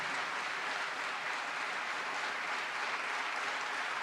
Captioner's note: applause